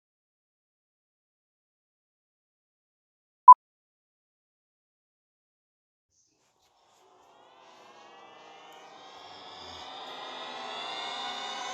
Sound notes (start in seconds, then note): 3.5 beep